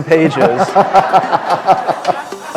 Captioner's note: laughter